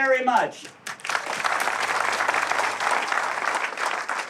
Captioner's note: applause